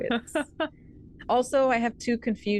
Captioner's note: laughs